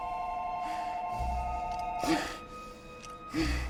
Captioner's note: panting continues